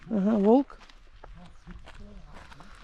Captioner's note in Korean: 뚜벅뚜벅